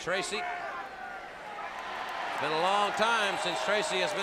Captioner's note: crowd cheering